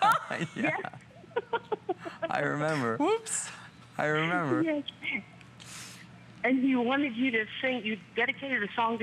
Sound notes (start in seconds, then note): 1.2 laughter